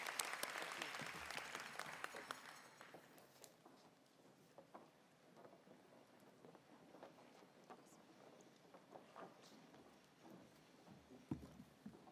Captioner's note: applause